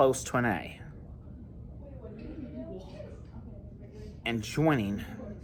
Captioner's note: Students at Purdue Fort Wayne's Neff Hall chattering